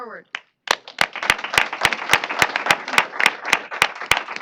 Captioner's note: applause